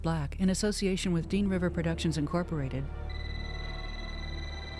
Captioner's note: phone Rings